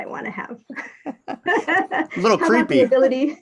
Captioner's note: both laughing